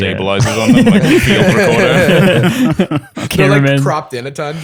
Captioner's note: laughter